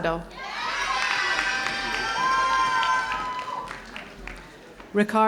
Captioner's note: audience cheering